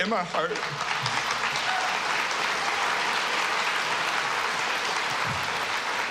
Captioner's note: Aplaudindo, aplaudindo